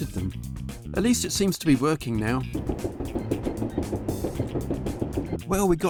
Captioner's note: drilling